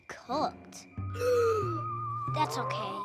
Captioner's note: Blueberry gasps